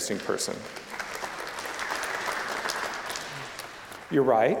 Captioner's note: applause